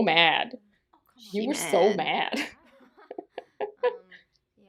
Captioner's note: laughter